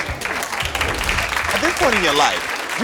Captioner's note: audience applauds